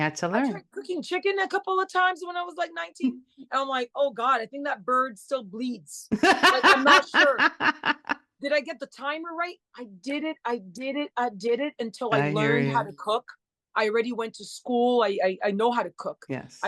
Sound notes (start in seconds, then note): 6.2 burst out laughing